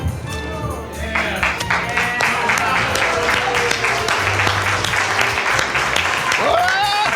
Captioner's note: audience applauds